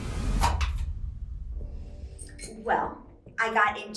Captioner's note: light clicks